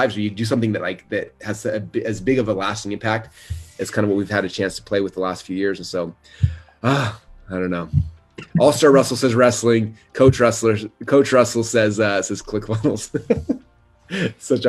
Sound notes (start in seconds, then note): 6.4 sighs; 12.6 laughs